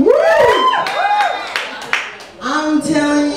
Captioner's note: audience cheers